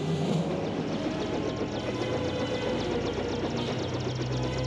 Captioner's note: helicopter engine starting